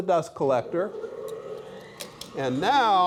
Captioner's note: dust collector hums